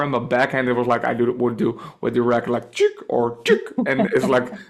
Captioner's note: makes soundeffect